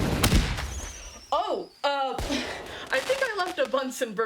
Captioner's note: loud explosion; bang; explosions